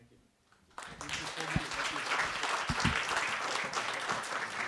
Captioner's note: applause